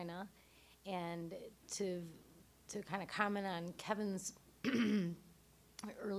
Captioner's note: clearing throat